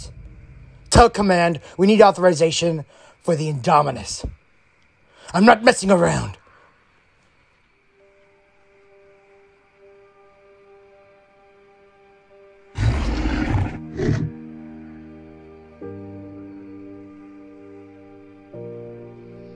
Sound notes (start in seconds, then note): 12.7 Bumpy growls; 14.2 solemn music